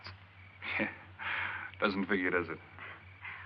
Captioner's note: chuckling